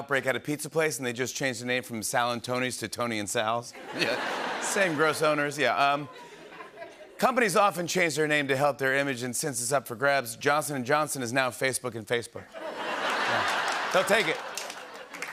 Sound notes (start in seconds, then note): 3.7 laughter; 12.6 laughter and applause